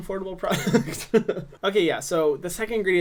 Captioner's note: laughs